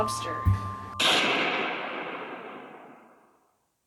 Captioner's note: gunshot